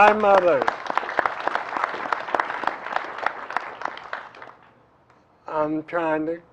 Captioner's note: applause